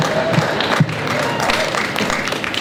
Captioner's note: applause